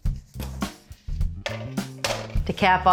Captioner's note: upbeat music; tray clangs